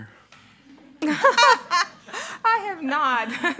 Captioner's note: participants laughing